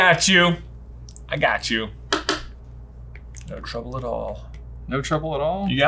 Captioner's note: pen tapping